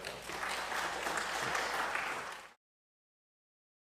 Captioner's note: applause